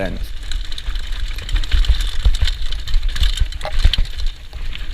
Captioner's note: bike wheels spinning